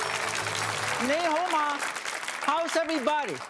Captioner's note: speaking in foreign language